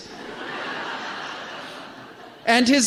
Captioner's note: laughter